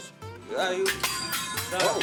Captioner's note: utensils clanging